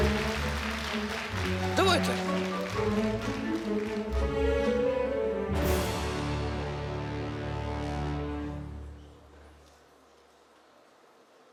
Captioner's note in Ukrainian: оплески